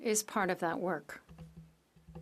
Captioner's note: speaking French